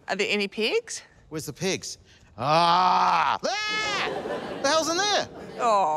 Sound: exclaims

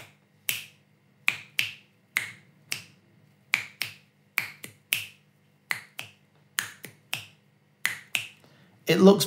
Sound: finger clicking

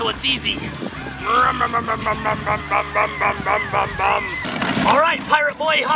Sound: making car sounds

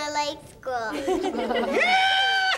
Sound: everyone laughs

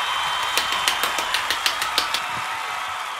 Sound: claps

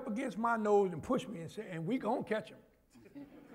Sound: laughter

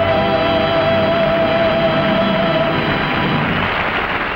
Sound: audience applause

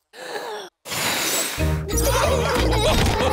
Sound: blows; laughter

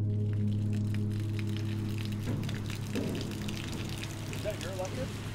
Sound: water trickling

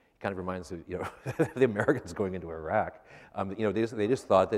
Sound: laughs

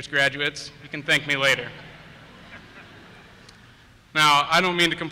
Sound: laughter

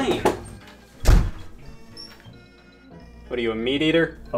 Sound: door slamming

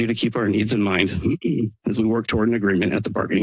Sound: clears throat

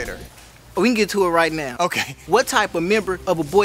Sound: laugh

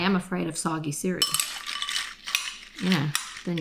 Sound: spoon clinking

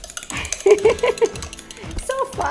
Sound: laughs

